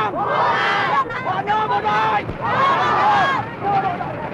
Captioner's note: cheering